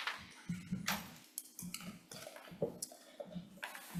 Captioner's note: papers shuffle